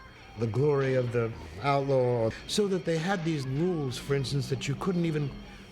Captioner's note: none